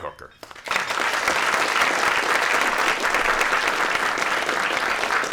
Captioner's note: applause